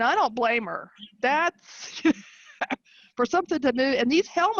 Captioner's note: chuckling